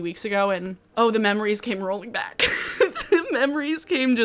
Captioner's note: giggles